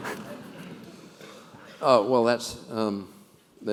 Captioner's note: laugh